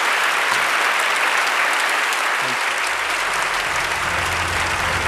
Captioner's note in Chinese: 掌聲